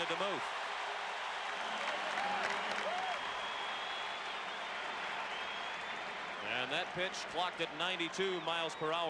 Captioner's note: applause